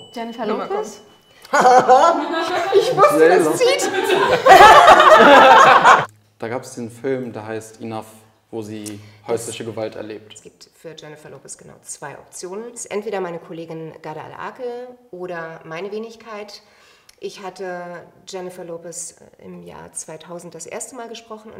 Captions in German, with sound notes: Jennifer Lopez? (Tiefes Lachen) Ich wusste, das zieht. Da gab es den Film, der heißt "Enough", wo sie häusliche Gewalt erlebt. Es gibt für Jennifer Lopez genau zwei Optionen. Entweder meine Kollegin Ghadah Al-Akel oder meine Wenigkeit. Ich hatte Jennifer Lopez im Jahr 2000 das erste Mal gesprochen.